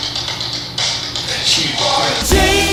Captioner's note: in a low voice